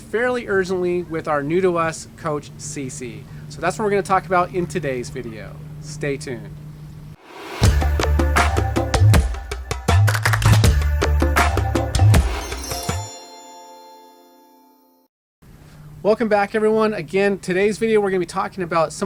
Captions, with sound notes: fairly urgently with our new-to-us coach, CC. So that's what we're gonna talk about in today's video. Stay tuned. (upbeat music) (chimes ring) Welcome back everyone. Again, today's video, we're gonna be talking about